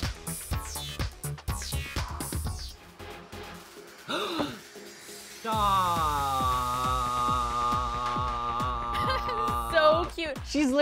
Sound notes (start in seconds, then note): 0.0 upbeat techno intro; 5.5 gasps; 8.3 laughs